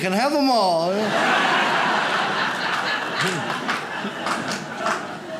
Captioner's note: audience laughs